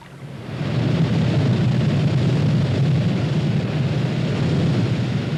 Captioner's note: roaring water